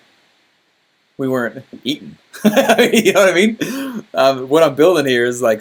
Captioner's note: laughing